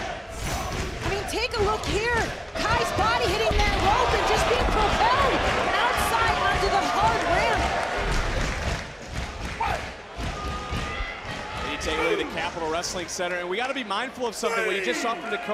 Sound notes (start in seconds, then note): 5.6 crowd chants